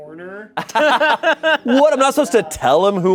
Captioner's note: everyone laughs